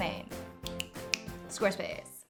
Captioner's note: snapping